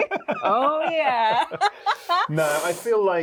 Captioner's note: both laughing; Luke laughing